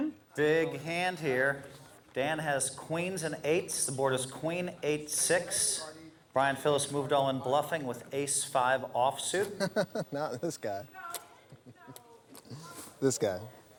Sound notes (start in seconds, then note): 9.4 laughs